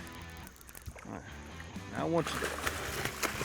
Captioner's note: fishing rod reeling; water splashing